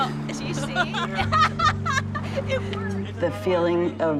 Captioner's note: people laughing